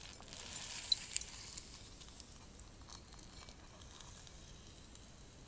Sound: A lot of squshhing; quiet wet sounds

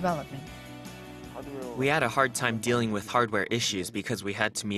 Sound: Korean

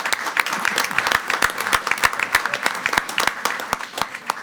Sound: everyone applauding

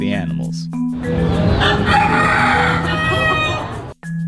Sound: rooster crowing

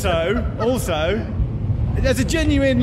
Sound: laughing

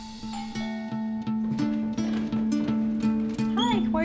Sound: doorbell chimes

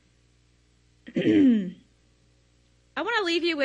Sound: clears throat

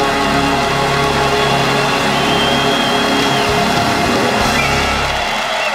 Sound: cheers and applause

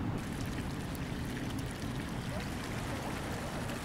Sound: water trickles

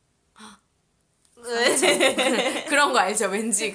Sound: laugh

